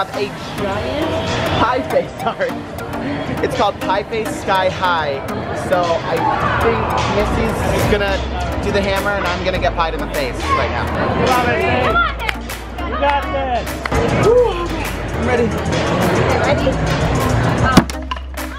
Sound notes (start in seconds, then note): 12.3 chattering